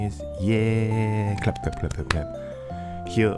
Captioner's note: clap clap clap